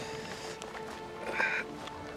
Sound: grunting

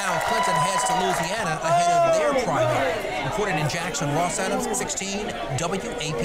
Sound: applause

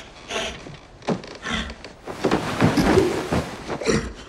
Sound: bed Creaking

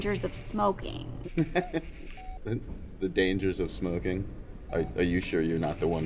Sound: chuckles

